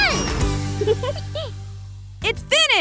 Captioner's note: chuckles